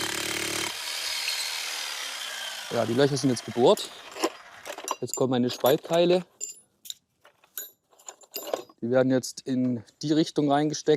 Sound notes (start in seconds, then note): 6.9 metallic clinking